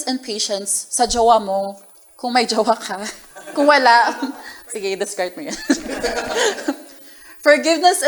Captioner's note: laughter